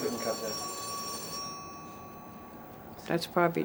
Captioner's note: ringing